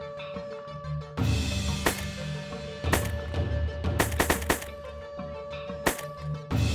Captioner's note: gun shots